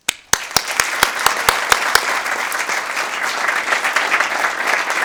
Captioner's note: audience applauding